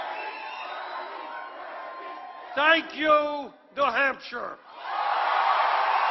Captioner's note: cheers